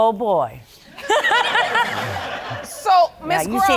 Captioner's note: all laughing